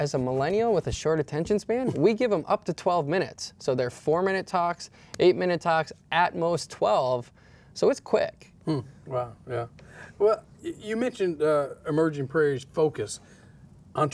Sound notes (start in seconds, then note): 1.8 laughs